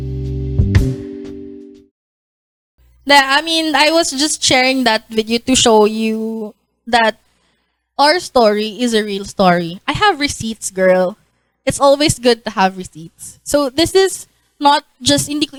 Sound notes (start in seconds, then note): none